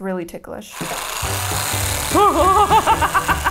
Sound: Theragun whirring

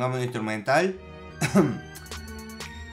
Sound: coff coff again :v

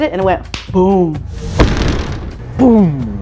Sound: boom

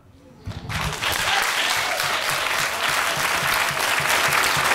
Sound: audience applauding

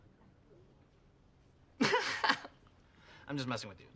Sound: laughs

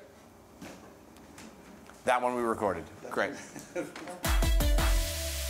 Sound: laughter

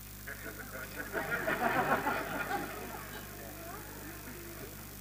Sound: soft laughter

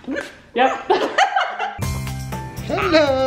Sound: laughs

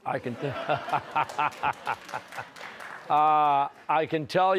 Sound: laughter

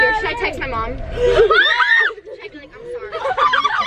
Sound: girls scream

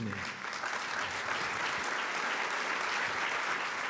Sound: applause

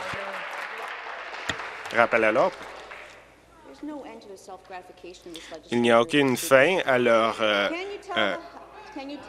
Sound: applause

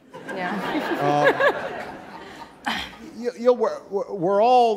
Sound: audience laughing

